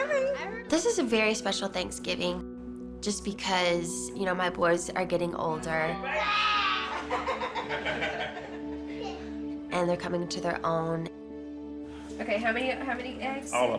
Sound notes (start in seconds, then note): 6.1 roaring; 6.9 laughter